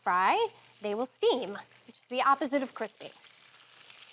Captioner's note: sizzling